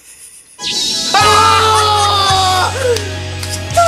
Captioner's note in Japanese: シュイーン音